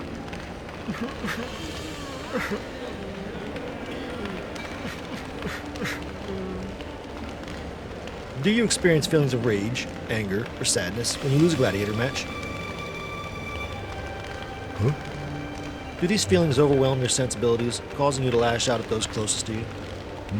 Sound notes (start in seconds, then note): 2.4 sobbing & Crying Sounds